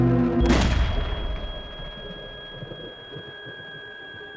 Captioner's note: gunshot rings